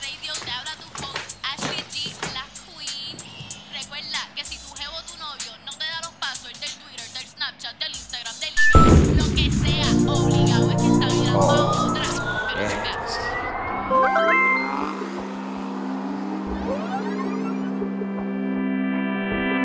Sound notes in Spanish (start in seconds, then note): 8.6 estallido de explosión